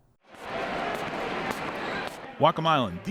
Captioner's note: feet scuffing